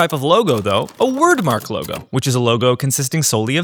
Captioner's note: keyboard clicking